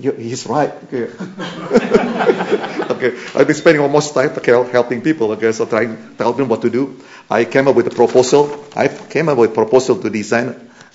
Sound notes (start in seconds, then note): 1.1 laughter